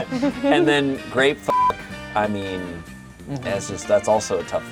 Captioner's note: beep